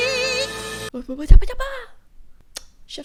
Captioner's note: flabbergasted noises